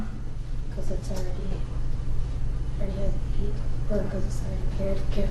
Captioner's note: student speaks softly